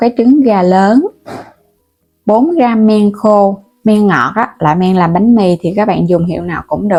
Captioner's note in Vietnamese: hắng giọng